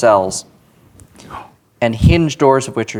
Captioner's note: gasps